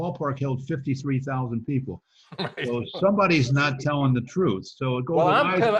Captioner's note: laughs